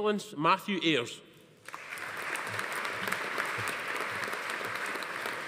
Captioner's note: audience applauding